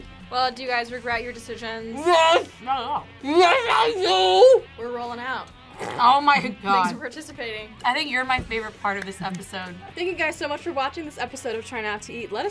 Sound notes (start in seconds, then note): 5.7 laughs